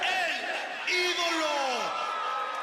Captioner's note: crowd cheering